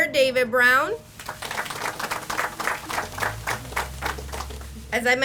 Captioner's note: audience applauds